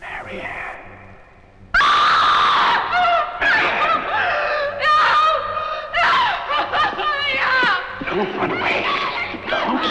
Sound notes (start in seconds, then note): 1.8 Diane screams